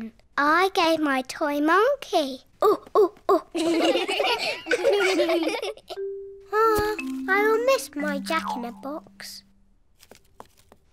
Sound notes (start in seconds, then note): 3.3 children laughing; 3.5 all laugh